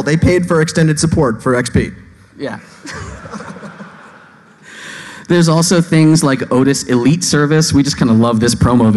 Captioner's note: laughing